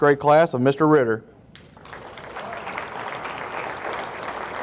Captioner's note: audience applauding